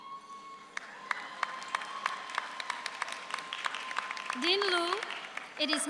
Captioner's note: audience applauds